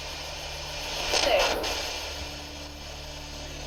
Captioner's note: spirit box voice